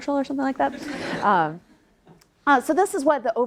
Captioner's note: audience laughs